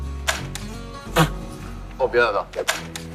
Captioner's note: laughing!